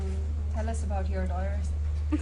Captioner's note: laughter